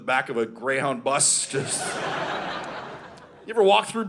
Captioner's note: audience laughing